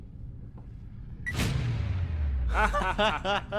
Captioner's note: laser blasting; Tim and Keon laughing